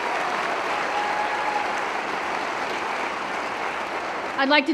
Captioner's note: cheering & Applause